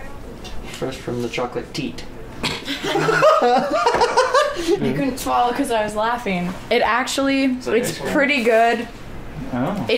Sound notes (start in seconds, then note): 2.5 snorts; 2.5 laughing